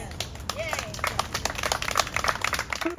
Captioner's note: applause